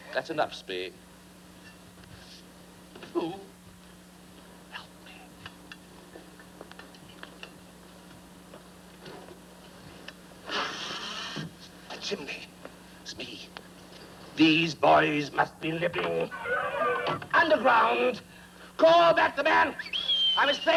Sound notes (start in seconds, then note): 4.9 whispering; 16.3 boys shouting